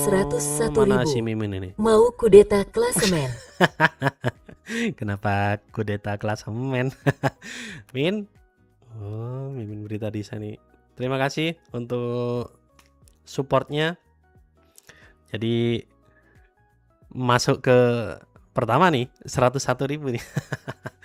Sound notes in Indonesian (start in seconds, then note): 2.9 tertawa; 7.4 terkesiap; 20.8 tertawa